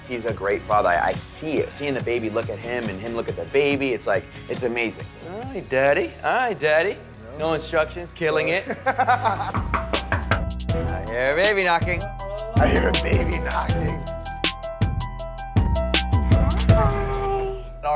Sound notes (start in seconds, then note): 8.6 laughs; 9.6 knocks on door